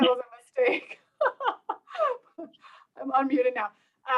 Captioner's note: laughter